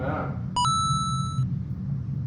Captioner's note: coin drop